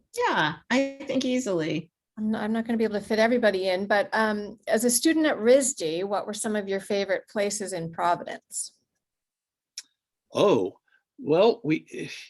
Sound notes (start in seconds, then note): none